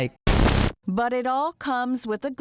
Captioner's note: game crackling